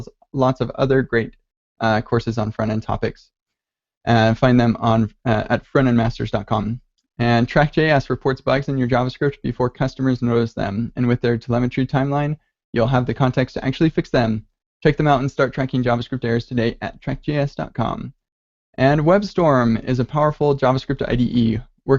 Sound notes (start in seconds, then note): none